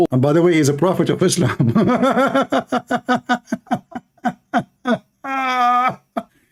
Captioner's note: Ketawa